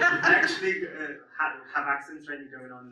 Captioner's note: audience laughs